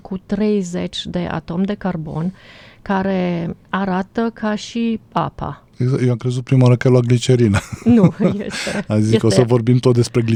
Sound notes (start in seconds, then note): 7.5 laughter